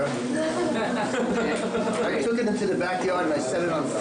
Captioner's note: laughing